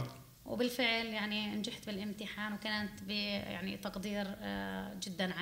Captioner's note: speaking arabic